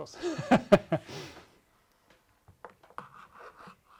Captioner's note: laughs